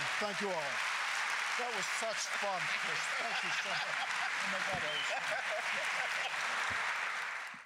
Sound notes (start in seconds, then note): 0.1 audience applause; 4.8 laughs off-screen; 5.9 applause continues